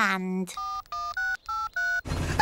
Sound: dialing

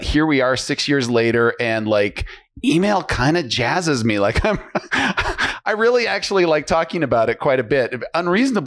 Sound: laughs

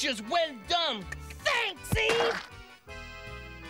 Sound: thud

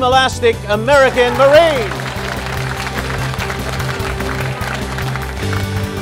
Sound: applause

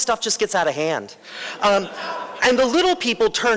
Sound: laughter

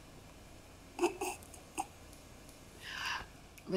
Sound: sniggering

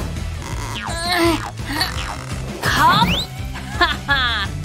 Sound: grunting

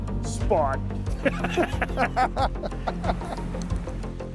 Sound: guys laugh

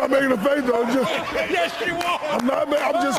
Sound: laughing hysterically

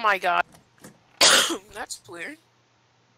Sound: cough

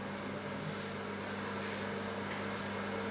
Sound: machine whirrs

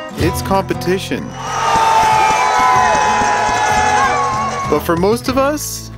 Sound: audience cheering

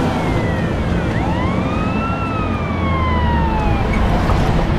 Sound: siren wails

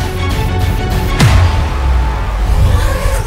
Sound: none

